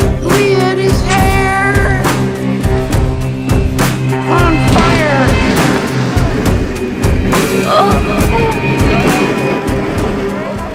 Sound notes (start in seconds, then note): 8.4 groans